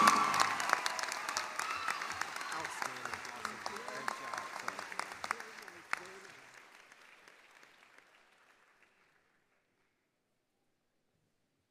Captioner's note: applause